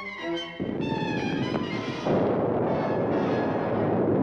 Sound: bomb blasting

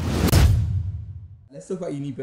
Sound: whooshing

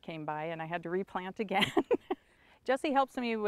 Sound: laughs

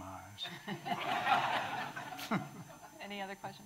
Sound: audience laughing

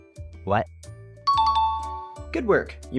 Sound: correct ding sound

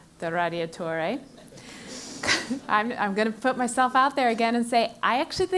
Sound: laugh

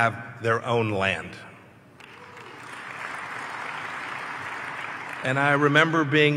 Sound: applause

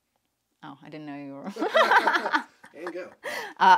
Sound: laughs

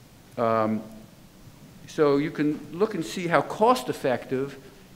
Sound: none

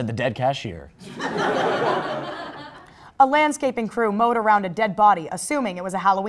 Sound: crowd Laugh

